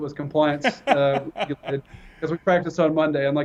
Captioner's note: laugh